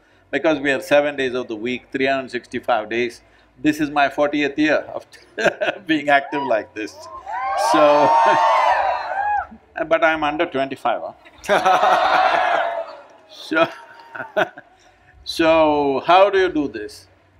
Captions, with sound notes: Because we are 7 days of the week, 365 days. This is my 40th year of... [Laughs] being active like this. So... [Cheering] But I'm under 25, hmm? [Laughter/Cheering] So... [Laughs] so, how do you do this?